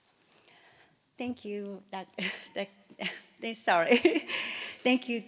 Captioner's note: stutters